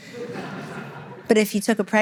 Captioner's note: audience laughter